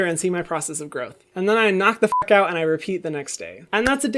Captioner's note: beep